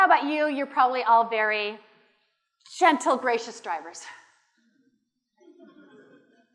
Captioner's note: laughter